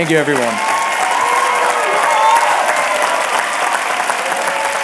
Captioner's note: applause and cheering